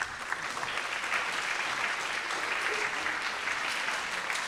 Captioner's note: audience applauding